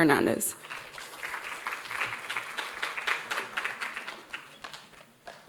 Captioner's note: audience applauding